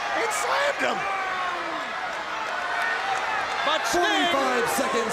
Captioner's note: crowd chatter